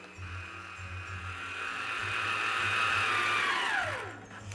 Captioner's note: mixer whirring